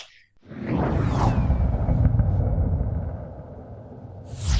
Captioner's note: air whooshing